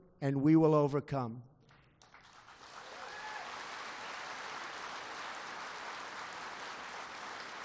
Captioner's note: applause